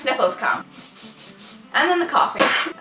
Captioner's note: sniffles intensify; dramatic cough